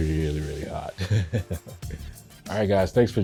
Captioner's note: chuckles